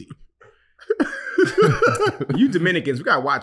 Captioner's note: laughing